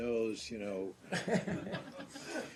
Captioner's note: laughter